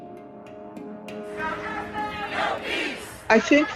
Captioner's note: chanting